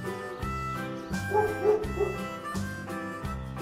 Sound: dog barking

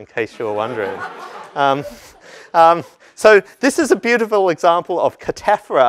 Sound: laugh

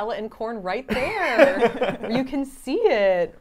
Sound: laughs

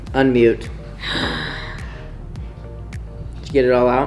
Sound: sighs

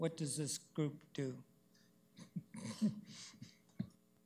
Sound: chuckles

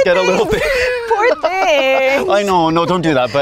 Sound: laughing

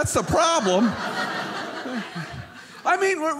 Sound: audience laughing

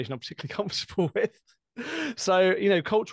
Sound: laughter

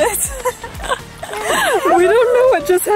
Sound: laughing

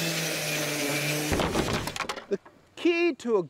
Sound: wood rattling

